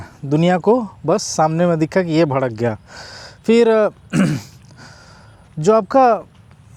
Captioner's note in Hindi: गला साफ़ करने की आवाज़